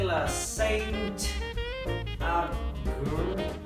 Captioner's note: desperately trying to speak French